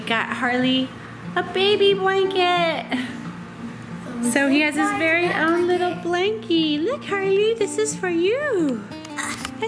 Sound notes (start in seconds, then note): 2.8 chuckling